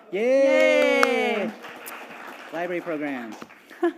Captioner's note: audience applauding